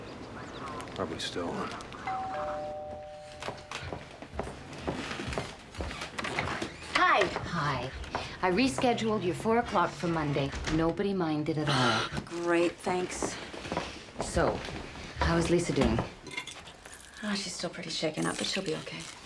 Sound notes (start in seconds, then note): 2.0 doorbell ringing; 11.6 sighs in relief